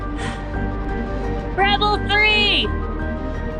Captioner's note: yelling